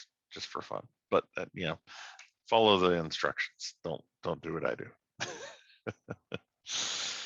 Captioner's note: laughs